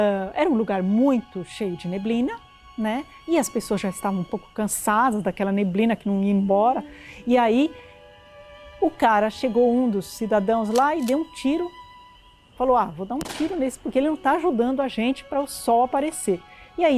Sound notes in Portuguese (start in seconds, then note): 10.6 Engatilhar de uma arma; 13.2 Estampido de Tiro!